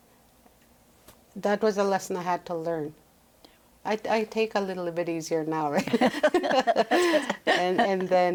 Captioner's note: laughs